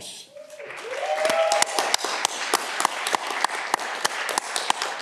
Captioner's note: audience clapping